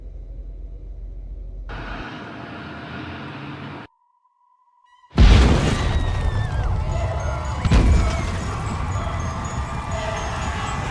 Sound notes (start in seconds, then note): 5.2 loud Boom; 7.3 earthquake sounds; 8.9 people screaming